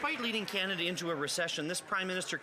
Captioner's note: some Applause